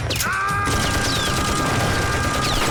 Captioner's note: screaming